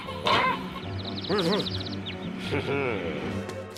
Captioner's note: birds tweeting